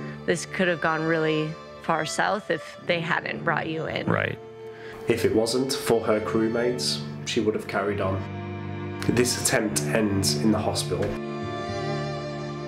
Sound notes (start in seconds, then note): none